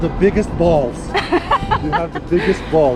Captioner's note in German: lacht